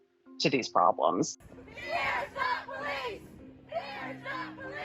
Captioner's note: crowd chanting